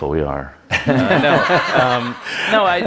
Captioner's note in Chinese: Laughter; 笑聲